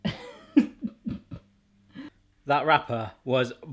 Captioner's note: laughing